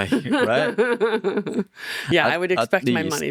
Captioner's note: laughing